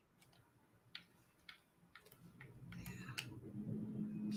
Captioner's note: clicking